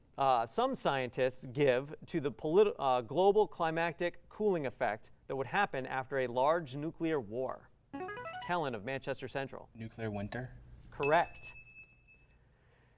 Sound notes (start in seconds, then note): 7.5 buzzer